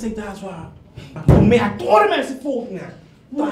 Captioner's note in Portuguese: thud